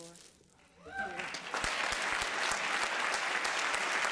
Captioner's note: applause